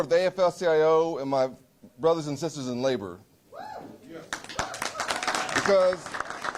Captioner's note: applause